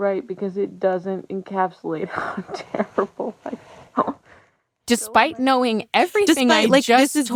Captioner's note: laughs